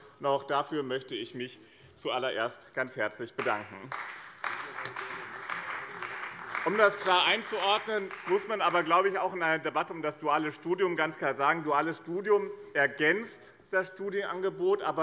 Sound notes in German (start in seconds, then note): 3.8 Beifall bei dem BÜNDNIS 90/DIE GRÜNEN und der CDU